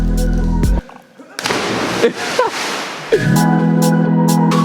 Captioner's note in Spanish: chapoteo; música optimista